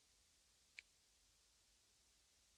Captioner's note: snap